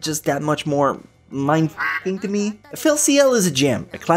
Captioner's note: quack